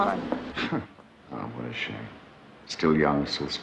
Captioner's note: chuckles